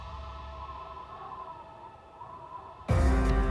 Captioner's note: wind whistling